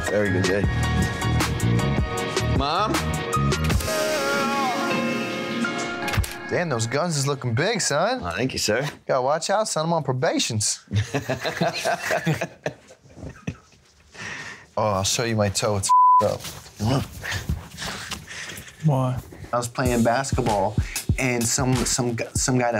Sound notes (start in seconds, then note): 10.9 laughing; 15.9 beep